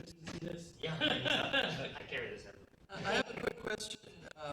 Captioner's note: laughter